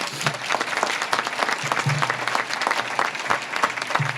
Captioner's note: audience claps